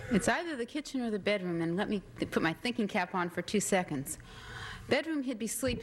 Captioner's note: none